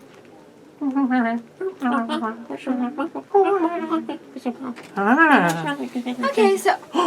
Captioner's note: monkey noises